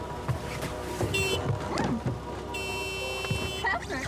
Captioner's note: beeping